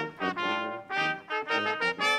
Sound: none

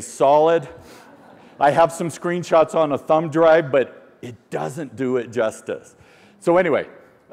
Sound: laughter

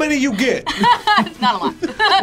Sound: laughs

